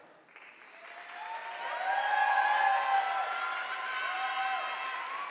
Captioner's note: audience applauding